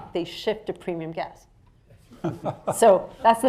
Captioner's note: laughs